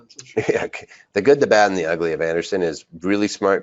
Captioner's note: laughs